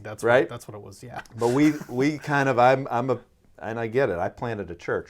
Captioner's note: laughing